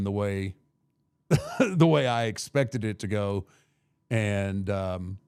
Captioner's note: laughs